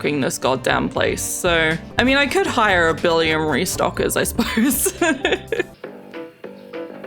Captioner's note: laughs